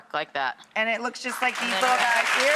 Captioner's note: applause